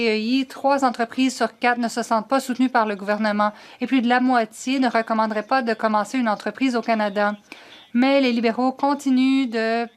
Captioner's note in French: voix de l'interprète